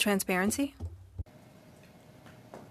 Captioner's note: speaking French